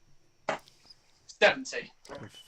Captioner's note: dart ticks